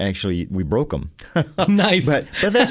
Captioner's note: laughs